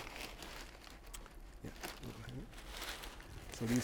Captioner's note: paper crackling